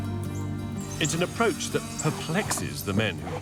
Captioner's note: machine whirring